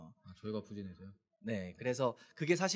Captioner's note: speaking korean